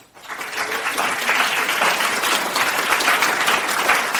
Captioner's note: audience applauds